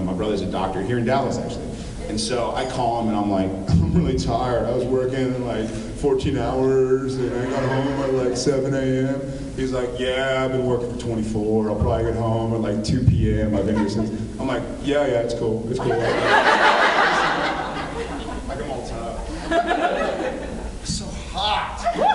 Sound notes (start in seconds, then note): 15.8 laughs